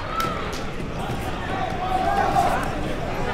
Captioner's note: crowd talking